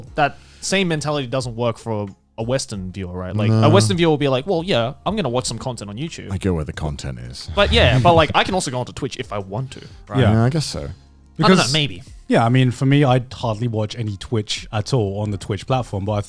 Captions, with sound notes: Whereas, I feel that same mentality doesn't work for a Western viewer, right? Like, A Western viewer will be like, 'well yeah, I'm gonna watch some content on YouTube,' - I go where the content is. - Well yeah, but like, I can also go onto Twitch if I want to, right? (affirmative murmuring) - Yeah, I guess so. = I don't know, maybe. - Yeah, I mean, for me, I hardly watch any Twitch at all, on the Twitch platform,